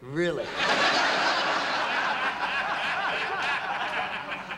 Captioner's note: laughter